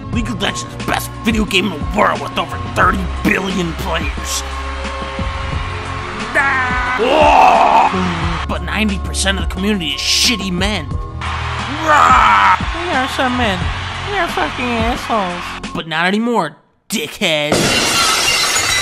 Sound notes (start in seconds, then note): 6.1 yelling; 6.1 cheering